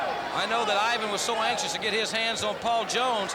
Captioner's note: crowd chatter